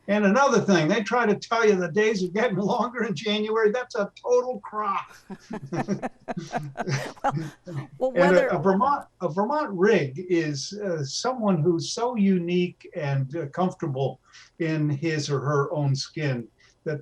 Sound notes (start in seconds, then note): 5.4 all laughing